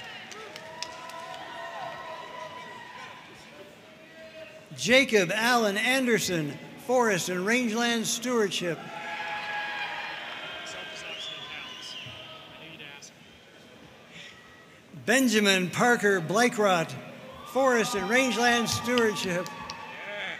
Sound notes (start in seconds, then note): 0.0 audience cheering and applauding; 8.8 audience cheering; 20.2 audience cheering and applauding